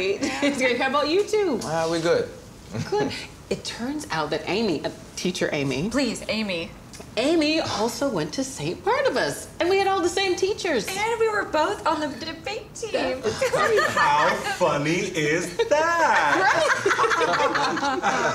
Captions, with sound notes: How about you two? Uh, we good. Good! It turns out that Amy—uh, Teacher Amy. Please, Amy! Amy also went to St. Barnabas! And we had all the same teachers! And we were both on the debate team! That is crazy! How funny is that? Right?! (laughter)